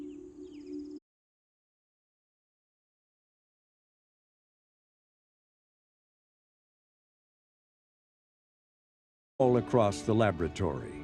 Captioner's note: birds chirping